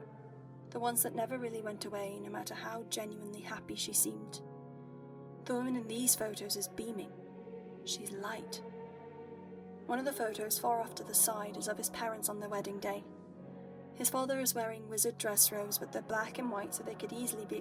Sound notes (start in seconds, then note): none